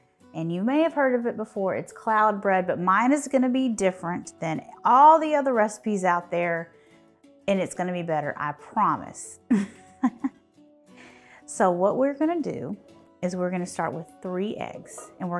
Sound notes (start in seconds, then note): 9.5 laughs softly